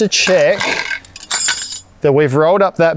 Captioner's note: metals clinging